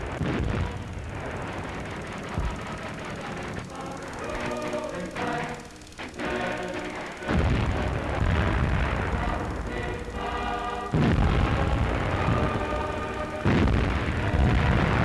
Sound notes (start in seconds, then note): 4.4 military tune plays; 8.4 bombs exploding